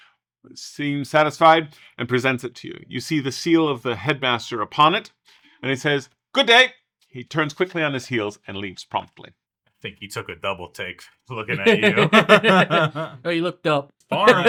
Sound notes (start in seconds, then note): 11.4 several People Laugh; 14.0 laughs